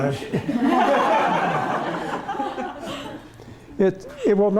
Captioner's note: laughter